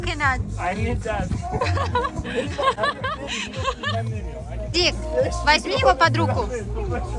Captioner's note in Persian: خنده